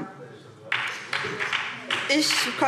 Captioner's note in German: Beifall SPD